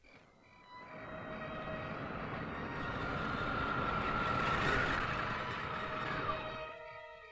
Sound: ominous music; car softly rustling; crickets softly chirping; ominous music

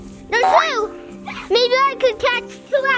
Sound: bouncy spring

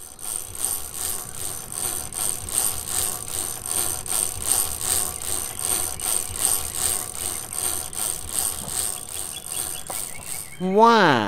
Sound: chain cranking

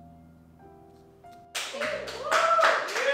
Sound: applause

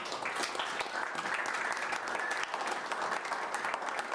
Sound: attendees applauding

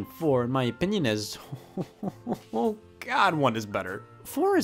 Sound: chuckles

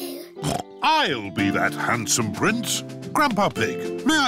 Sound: snorts

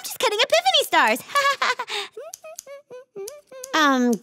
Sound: laughing and humming

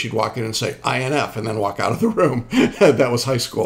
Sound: laughing

